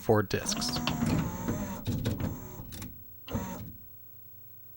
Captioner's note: clunky sounds and whirring motors as machine boots up